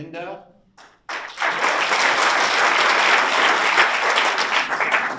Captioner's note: audience applauds